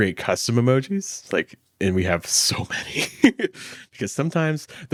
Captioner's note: laughs